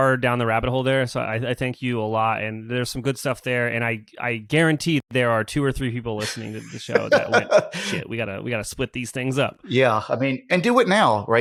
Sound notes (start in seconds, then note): 6.2 laughs